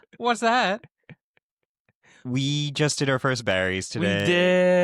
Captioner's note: hehehehe